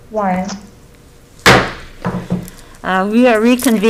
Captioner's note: gavel bangs